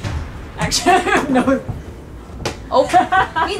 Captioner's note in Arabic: ضحك